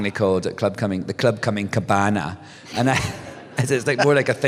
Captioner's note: laughter